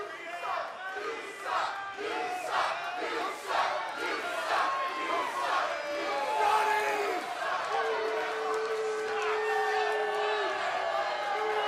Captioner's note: fans chanting